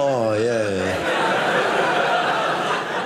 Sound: audience laughing

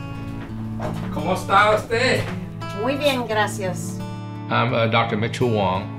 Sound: and patient speak in Spanish

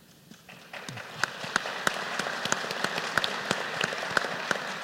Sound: applause

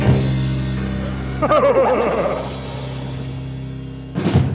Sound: maniacal Laugh

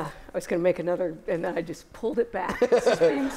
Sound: laughter

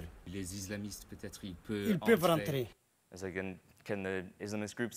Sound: speaks in a foreign language

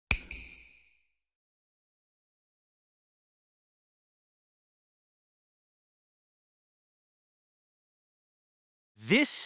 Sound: snap

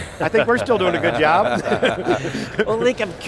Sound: laughing

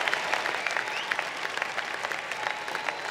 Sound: cheering and applause

